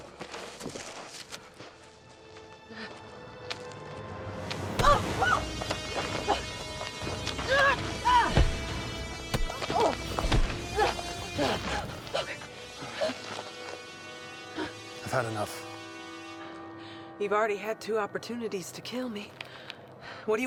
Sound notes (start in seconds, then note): 0.0 ground crunching; 4.8 Eleanor yelps; 7.4 Eleanor grunting; 9.1 elbow smacks